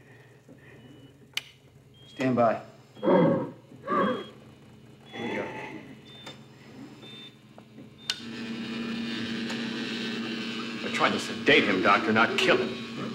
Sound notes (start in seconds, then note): 3.1 Donald grunts; 7.8 rectifier whirs